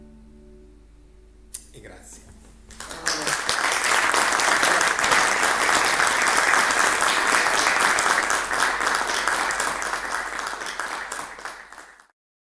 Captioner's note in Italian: Applauso